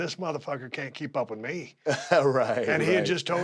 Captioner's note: laugh